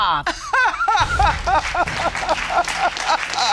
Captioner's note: grandmother sobs